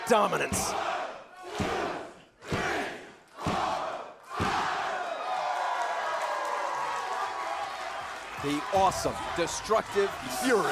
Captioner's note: crowd cheering